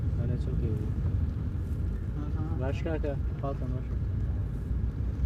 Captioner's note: speaking foreign language